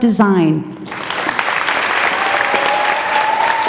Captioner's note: applauding